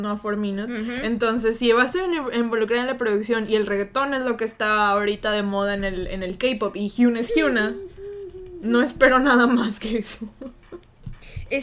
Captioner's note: whimpers